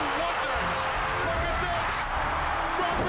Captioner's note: applause